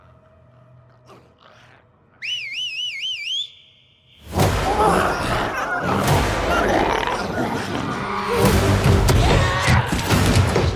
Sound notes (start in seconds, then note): 2.2 Darlus whistles; 4.2 dramatic music; 4.3 glowzies growling